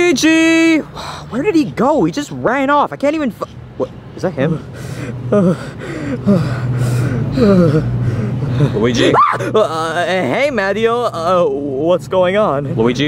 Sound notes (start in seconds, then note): 0.8 sighs; 4.5 Luigi hyperventilating; 7.3 Mario sighs; 8.9 Luigi screams